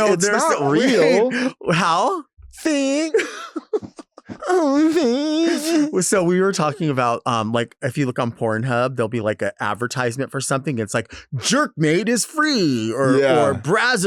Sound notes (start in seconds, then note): 2.7 laughing; 2.8 Delta laughing